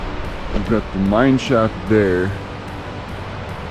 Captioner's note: wind howling